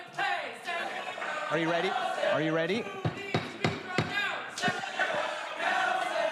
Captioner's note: crowd chanting